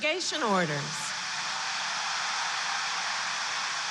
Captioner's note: applause